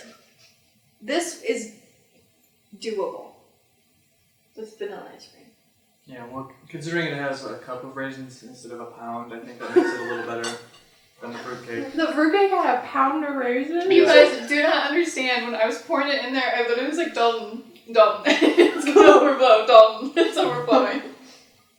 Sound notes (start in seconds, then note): 9.4 laughter